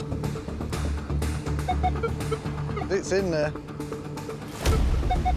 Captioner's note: metal detector beeping